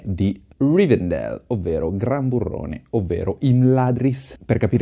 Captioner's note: in Italian